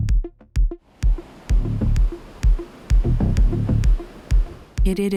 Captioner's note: ocean rushing